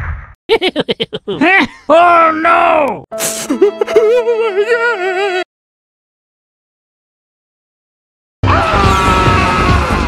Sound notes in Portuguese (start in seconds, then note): 3.2 Snif, snif